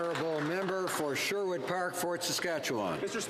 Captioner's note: some Applause